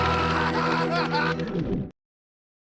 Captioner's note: screaming